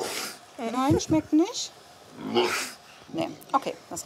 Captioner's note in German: Das Kamel schnieft